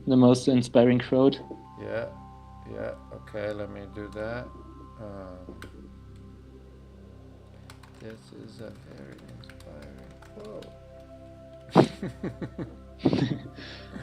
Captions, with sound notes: - The most inspiring quote. - Yeah, yeah. Okay, let me do that. This is a very inspiring quote (laughs).